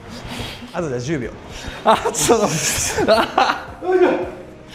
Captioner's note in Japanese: 笑い